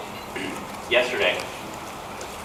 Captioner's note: clears throat